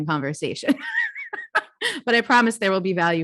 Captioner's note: laughs